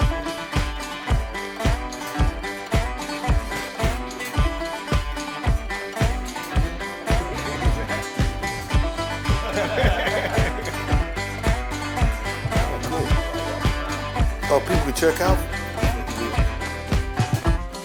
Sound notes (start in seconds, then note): 0.1 upbeat bluegrass music; 9.4 men laughing